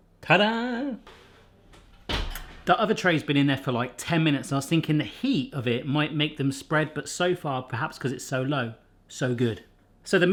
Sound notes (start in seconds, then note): none